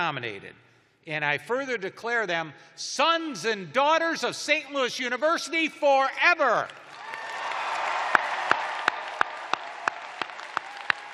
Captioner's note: cheers and applause